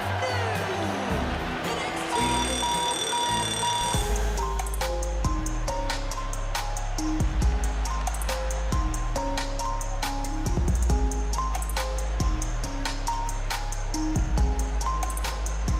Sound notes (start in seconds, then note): 4.7 alarm rings